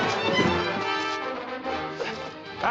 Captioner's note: grunts